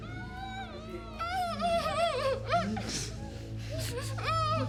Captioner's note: dramatic music; victims groaning